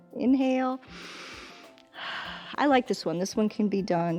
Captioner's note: inhales and exhales